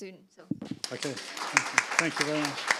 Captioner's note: audience applauding